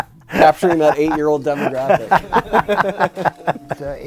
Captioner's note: people laughing; laughing